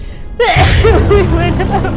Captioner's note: sneezes